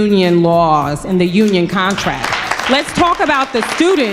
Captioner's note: crowd applauds